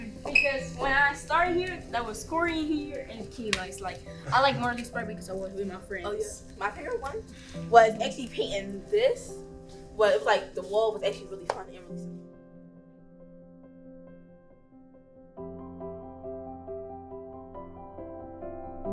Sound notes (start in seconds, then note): 3.4 slaps wall; 11.4 claps; 12.3 gentle upbeat music